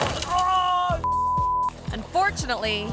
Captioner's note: body thumps; friend groans; tone beeps